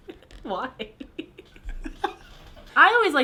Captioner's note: laughs